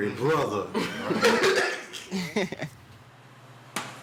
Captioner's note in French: Rires